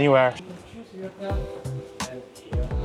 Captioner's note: people chattering